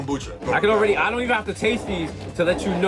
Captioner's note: bottles slide on desk